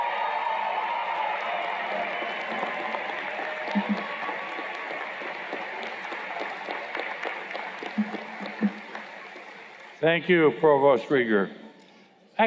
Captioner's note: cheers and Applause